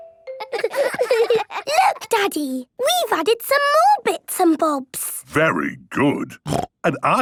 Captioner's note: laughter